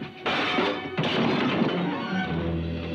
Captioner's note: dishes clatter; dramatic music